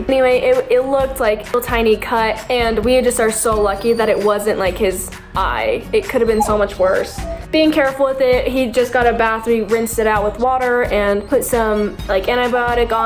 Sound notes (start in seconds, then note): 6.1 dog whines